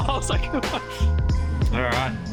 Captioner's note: laughing